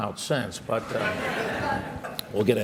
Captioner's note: laughter